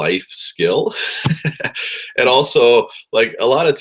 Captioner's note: laugh